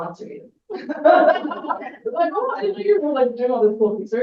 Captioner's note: everyone laughs